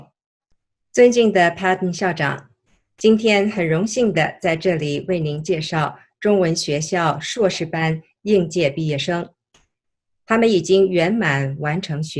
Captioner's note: speaks in Chinese